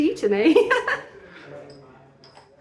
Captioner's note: laughing